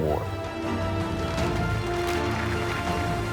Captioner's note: applause